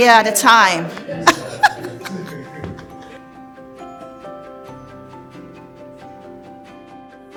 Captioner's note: laughs; lively music